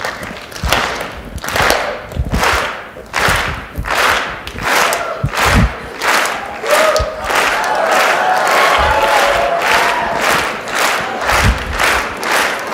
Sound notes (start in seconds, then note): 0.3 audience claps rhythmically; 8.7 audience cheers